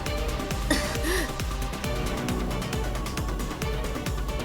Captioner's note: cough!